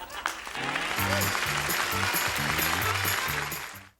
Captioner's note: applause